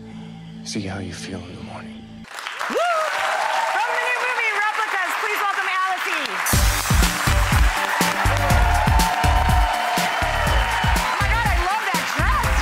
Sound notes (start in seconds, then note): 7.3 audience cheering; 7.3 upbeat music